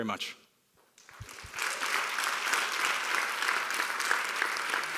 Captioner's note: applauding